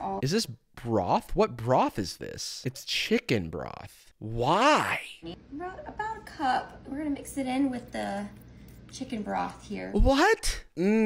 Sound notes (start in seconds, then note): none